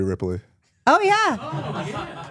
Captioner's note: audience laughs